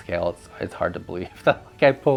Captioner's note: laughs